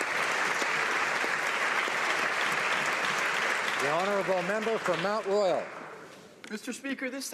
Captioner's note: applause